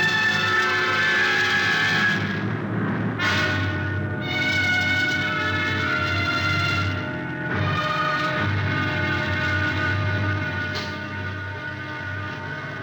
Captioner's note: train whistle blowing